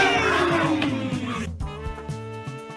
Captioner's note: gasping